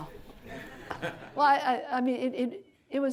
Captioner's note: audience laughter